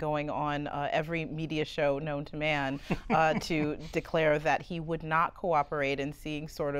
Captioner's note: laughter